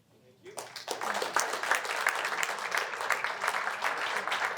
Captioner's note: applause